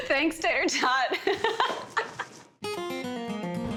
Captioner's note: both laughing